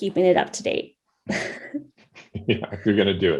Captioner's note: laughs